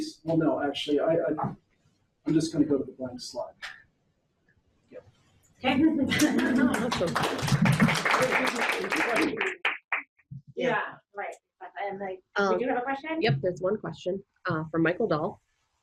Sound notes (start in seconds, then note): 6.0 audience laughs; 6.1 audience applauds